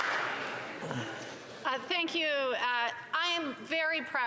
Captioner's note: some Applause